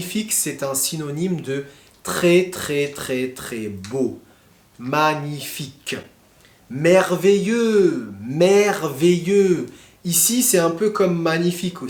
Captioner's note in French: grognement